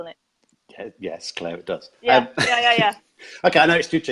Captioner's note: laughs